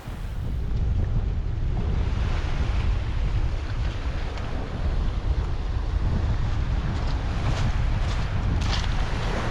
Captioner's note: sound of the surf